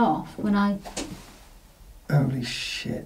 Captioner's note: quiet clattering